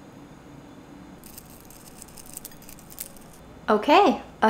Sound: knife scraping; Corn Flakes rustling

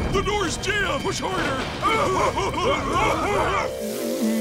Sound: crying

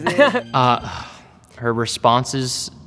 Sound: laughs

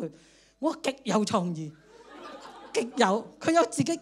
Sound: laughter

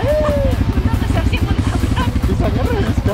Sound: chuckled

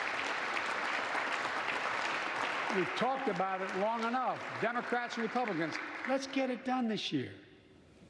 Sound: applause

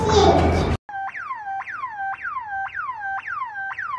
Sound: siren blares

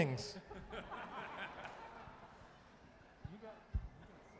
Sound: tuba players laughing

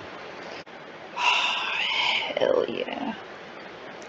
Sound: sigh

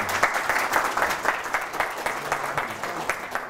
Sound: clapping

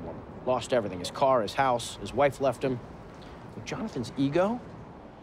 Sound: none

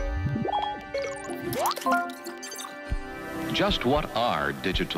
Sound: bright music; computers warbling; phone chiming

